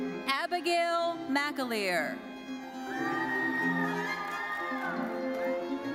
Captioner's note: audience cheering